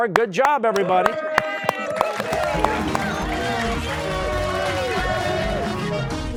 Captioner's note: cheers and applause